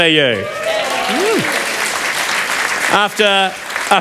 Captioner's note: applause